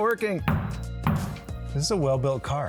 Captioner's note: hammering continues